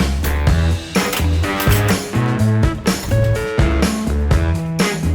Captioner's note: seatbelt fastening